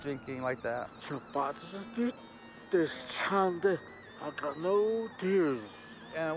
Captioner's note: speaking in tribal language